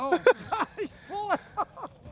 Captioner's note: laughter